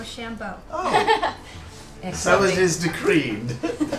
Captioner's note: chuckles